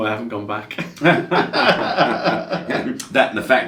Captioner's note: they laugh